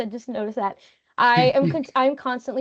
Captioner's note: chuckling